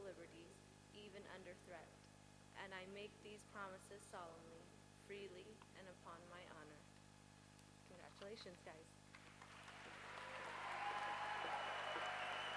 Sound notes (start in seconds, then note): 9.5 cheering